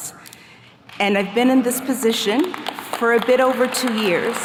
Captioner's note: attendees clapping